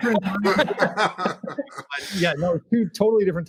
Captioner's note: laughing